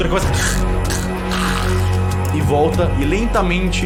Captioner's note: choking sound effect